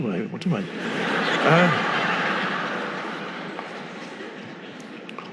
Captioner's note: audience laughing